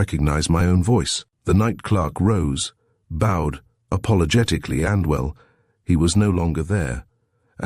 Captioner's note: apologetically